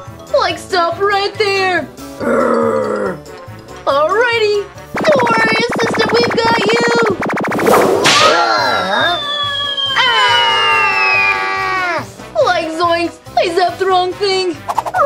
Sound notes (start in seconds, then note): 2.2 growls; 7.5 whip cracks; 10.0 yelling